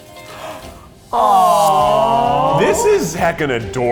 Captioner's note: in Unison